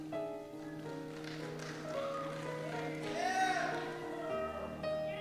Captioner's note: cheer